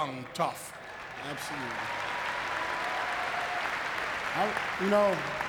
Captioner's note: audience clapping